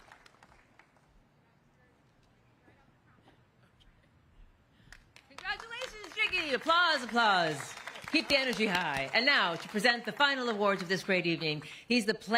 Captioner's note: applause